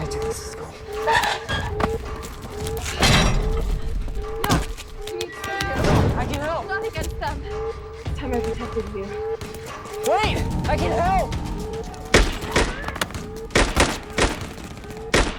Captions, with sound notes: We gotta do this, let's go. - No, I need to stay here. - I can help. - Not against them. It's time I protected you. - Wait, I can help! (gunfire pops)